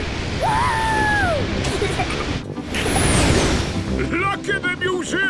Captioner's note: rocket thrusting